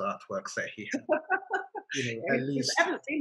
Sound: laughter

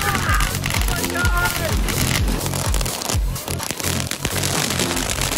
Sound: fireworks crackling; everyone yelling

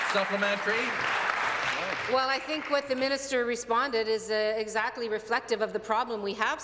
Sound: applause

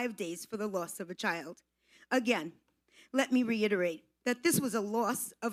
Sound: none

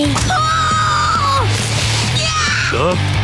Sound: screaming

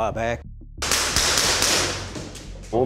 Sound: gun firing

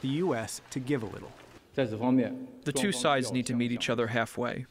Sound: through translator

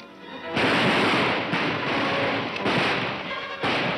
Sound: gunshots firing

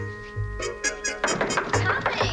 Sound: knocking at door

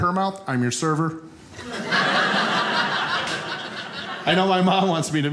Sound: audience laughing

